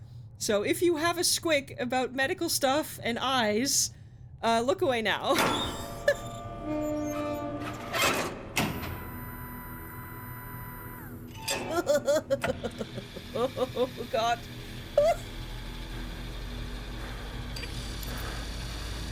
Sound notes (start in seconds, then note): 6.1 laughs; 11.6 laughs